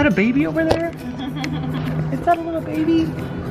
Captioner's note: giggling